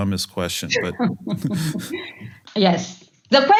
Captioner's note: laugh